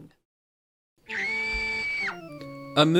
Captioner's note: piercing female scream